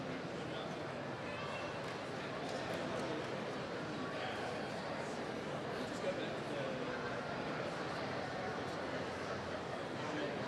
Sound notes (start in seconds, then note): none